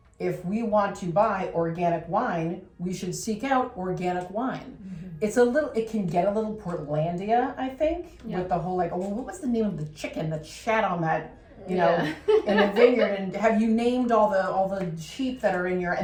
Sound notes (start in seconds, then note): 11.6 laugh